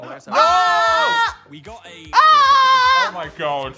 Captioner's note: Dan yells